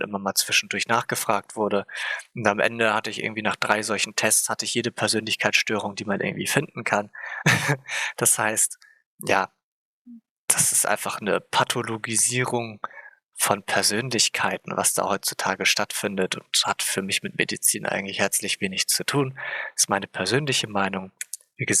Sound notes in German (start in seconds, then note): 7.1 lacht